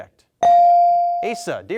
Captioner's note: bell dings